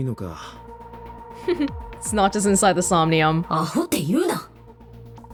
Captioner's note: chuckles